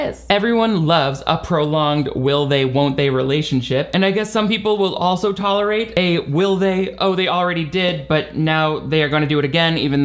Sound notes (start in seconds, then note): none